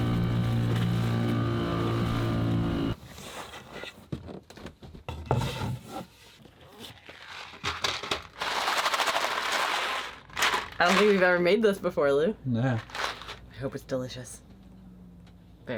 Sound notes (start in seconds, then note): 7.2 food rattling